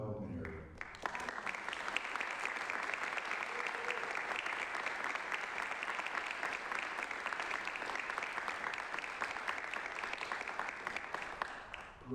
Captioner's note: applause